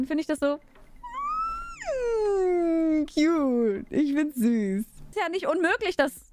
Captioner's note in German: quitsch-Geräusch